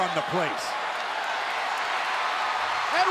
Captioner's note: applause